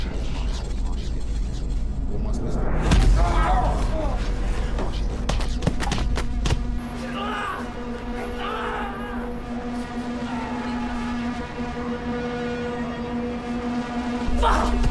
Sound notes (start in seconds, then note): 2.2 voice echoing; 3.2 Sonny shouts; 3.2 hammer thuds; 5.6 hammer thudding; 8.1 Sonny screaming